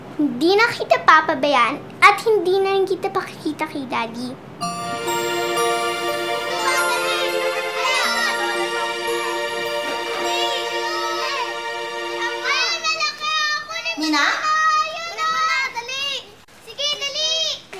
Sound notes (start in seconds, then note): 4.5 soft music playing; 6.3 kids screaming, chattering